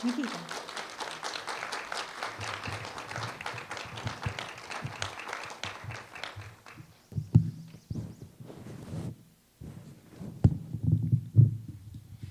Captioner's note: applause